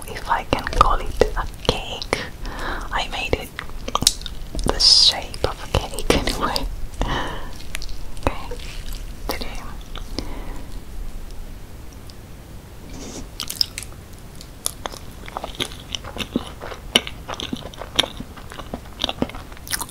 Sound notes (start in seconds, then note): 6.7 laughing